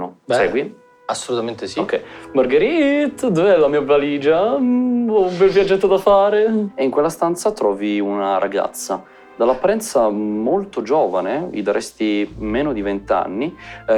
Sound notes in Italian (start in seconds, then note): none